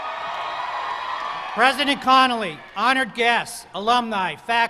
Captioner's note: cheers and applause